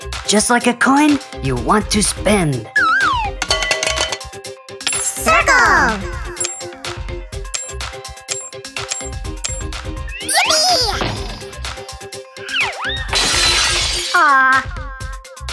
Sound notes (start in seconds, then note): 13.1 crash